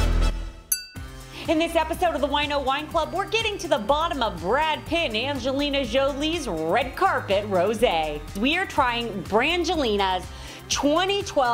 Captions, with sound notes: (glasses clinking) - In this episode of the Wine Oh wine club we're getting to the bottom of Brad Pitt and Angelina Jolie's red carpet rosé. We're trying Brangelina's 2012 rosé